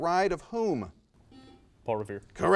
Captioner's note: buzzer noise